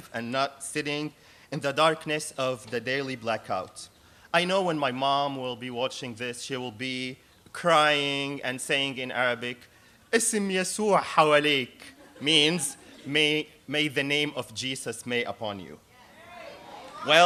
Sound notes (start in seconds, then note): 10.4 speaking arabic